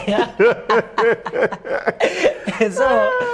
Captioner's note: laughter